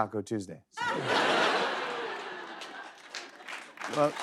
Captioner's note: laughter